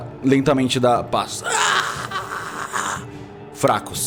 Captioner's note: groans